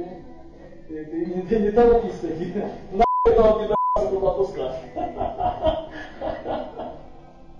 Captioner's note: laughs